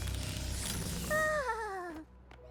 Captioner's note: shiver